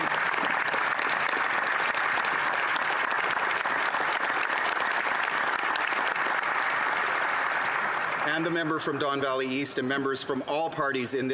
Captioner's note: applause